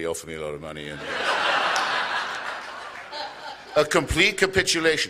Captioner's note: laughter